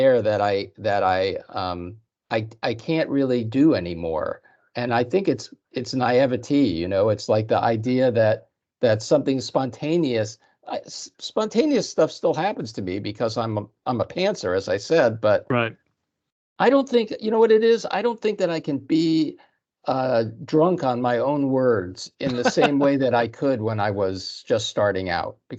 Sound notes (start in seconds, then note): 22.2 laughing